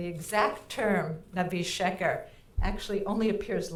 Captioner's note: speaking in foreign language